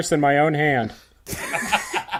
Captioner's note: explosive laughter